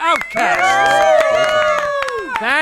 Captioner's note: crowd applauds